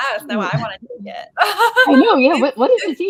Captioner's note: laughing